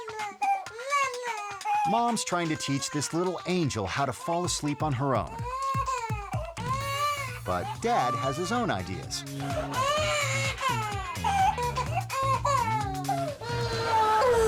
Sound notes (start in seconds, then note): 0.1 baby sobbing; 5.5 baby sobbing; 9.7 baby sobbing; 11.6 upbeat music